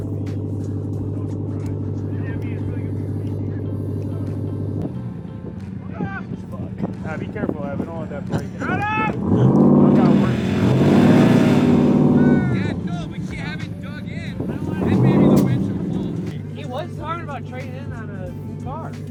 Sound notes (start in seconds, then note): 0.2 indistinct conversation; 10.4 engine revs